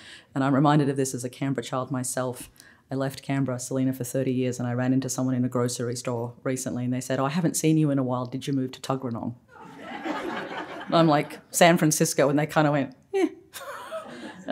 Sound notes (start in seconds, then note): 9.5 laughter